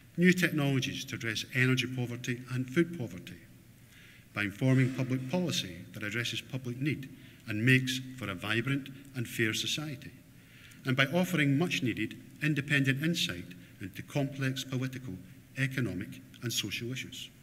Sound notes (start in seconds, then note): none